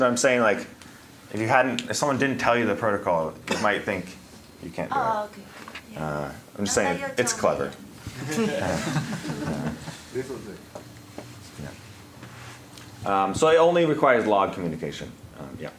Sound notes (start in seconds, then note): 8.2 laughter